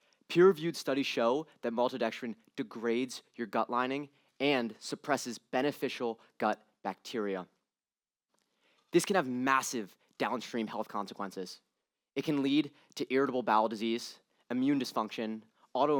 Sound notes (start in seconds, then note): none